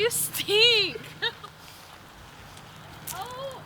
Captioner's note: laughing